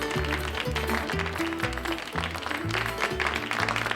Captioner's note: crowd applauding